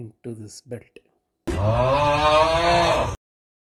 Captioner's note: screaming